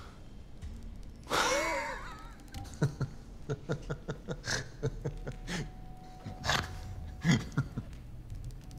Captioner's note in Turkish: Vasilius gülme sesi